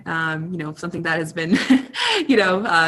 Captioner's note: chuckles